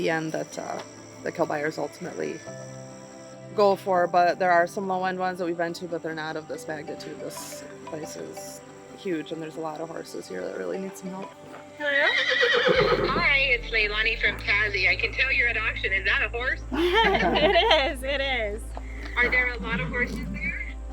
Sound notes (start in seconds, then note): 11.3 phone rings; 16.7 laughing